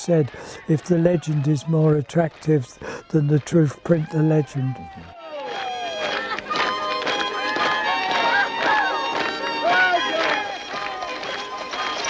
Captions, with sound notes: but as Ford said, "if the legend is more attractive than the truth, print the legend". [fiddle music] [rhythmic clapping]